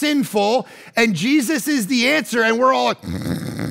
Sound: person snoring

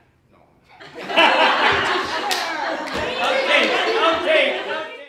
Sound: sound of laughter from Members

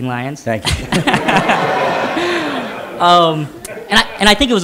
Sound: laughter

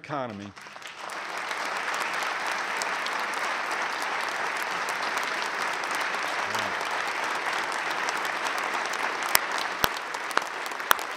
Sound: applause

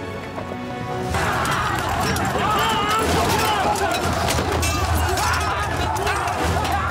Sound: soldiers yelling; weapons clanking; dramatic music

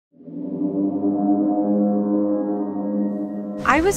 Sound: ominous horn-like sound

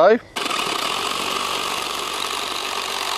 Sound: sawing

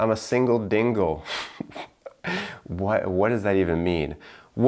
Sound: laughs

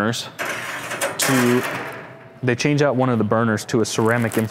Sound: metal clanking

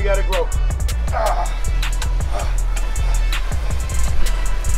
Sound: panting

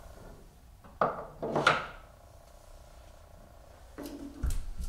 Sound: plastic banging; tool scraping

